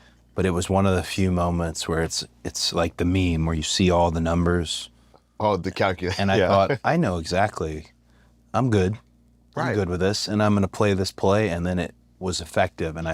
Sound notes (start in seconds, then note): 5.9 laugh